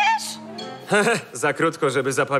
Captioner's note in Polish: śmieje się